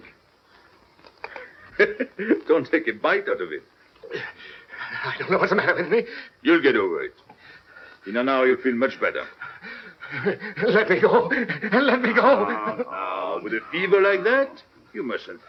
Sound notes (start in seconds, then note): 4.0 laughing